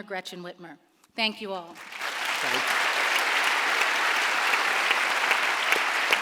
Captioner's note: audience applauds